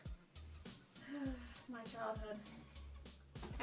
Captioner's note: sighs